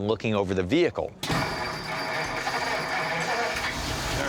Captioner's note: engine turns over